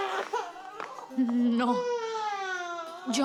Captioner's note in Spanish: Llanto del niño